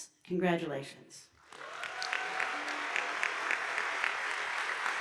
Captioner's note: audience applauding